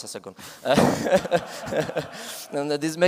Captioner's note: laughter